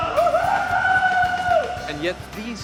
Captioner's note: men cheering